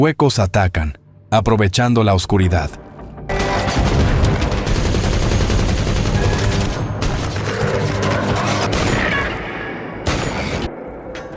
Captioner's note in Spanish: Ruido de disparos, tensión máxima